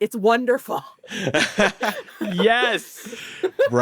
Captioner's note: all laughing